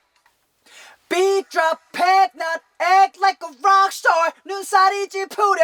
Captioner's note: breathing in